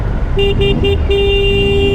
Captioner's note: honking